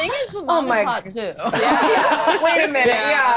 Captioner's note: all laughing